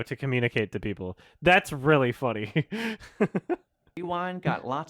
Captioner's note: chuckles